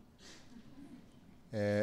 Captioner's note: laughter